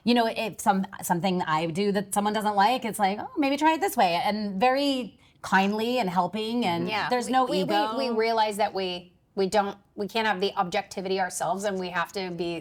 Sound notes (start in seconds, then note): 10.2 laughs